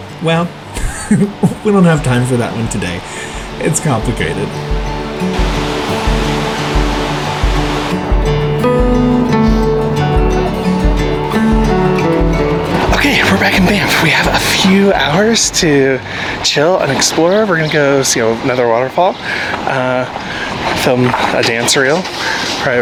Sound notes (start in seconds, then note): 5.2 water whooshing; 8.1 gentle music